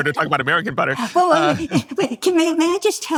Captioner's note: laughs